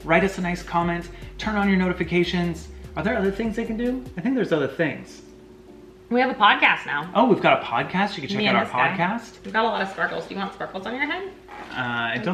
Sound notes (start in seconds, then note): none